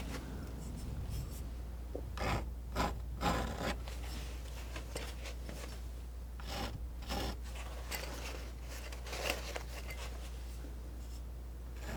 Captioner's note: scratching; scratching